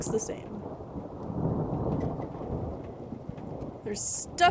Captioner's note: thunder; thunder Rumbling; rattling in Our Room